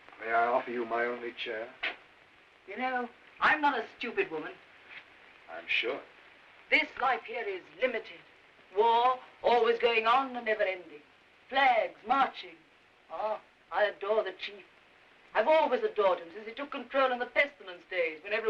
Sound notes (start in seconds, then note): 12.6 scoffs